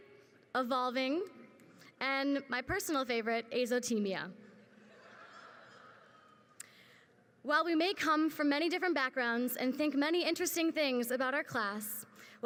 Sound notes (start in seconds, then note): 4.7 crowd laughs